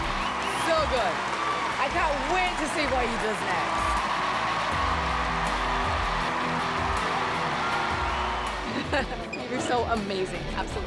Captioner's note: cheering and music